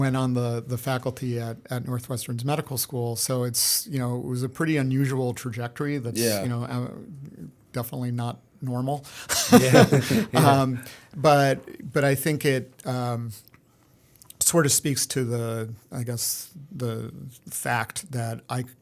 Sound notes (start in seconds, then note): 9.3 laughter